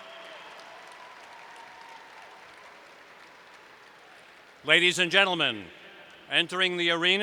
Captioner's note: cheers